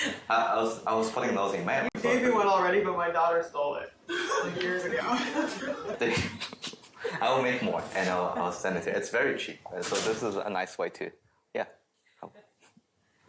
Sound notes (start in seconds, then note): 4.1 laughter